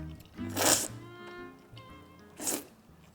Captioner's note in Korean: 후루룩 쩝쩝